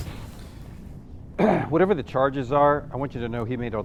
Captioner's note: throat clearing